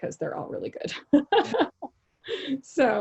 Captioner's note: laughing